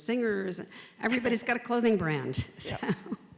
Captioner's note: laughs